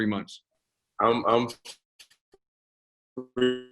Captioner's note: audio drop